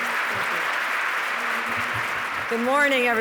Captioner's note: audience clapping